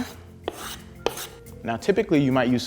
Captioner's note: scraping